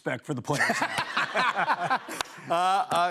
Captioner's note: laughter